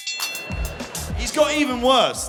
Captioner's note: Jack laughing; bell ringing